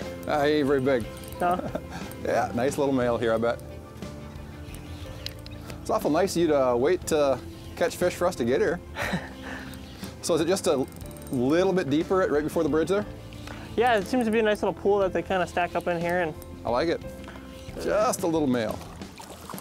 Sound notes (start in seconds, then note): 8.9 laughs